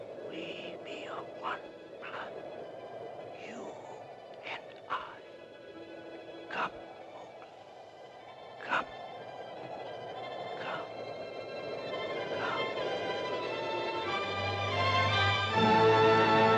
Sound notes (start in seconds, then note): 0.3 voice whispers; 13.2 uplifting music; 13.2 wind blowing; 15.6 uplifting music